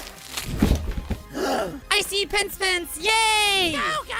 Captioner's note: gasp